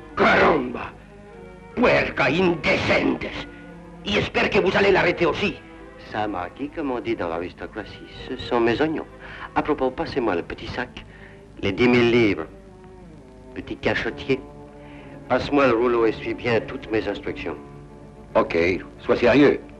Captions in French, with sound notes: Caramba ! [langue étrangère] J’espère que vous allez l’arrêter aussi. Cher Marquis, comme dans l’aristocratie, ce sont mes oignons. À propos, passez-moi le petit sac. Les 10 000 livres. Petit cachottier ! Passe-moi le rouleau et suis bien toutes mes instructions. OK. Sois sérieux.